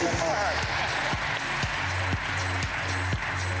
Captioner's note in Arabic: تصفيق